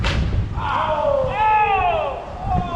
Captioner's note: dismayed shouting; snap